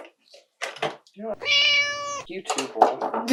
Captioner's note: meow